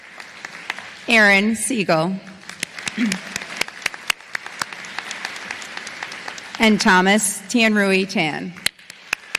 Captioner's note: applause; applause